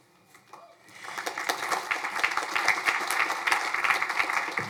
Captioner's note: crowd applauding